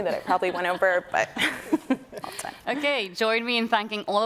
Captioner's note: woman laughing; laughing